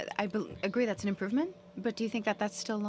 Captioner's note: speaking French